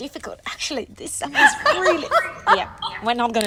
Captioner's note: laughter drowns out speaker